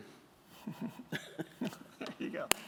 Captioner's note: chuckles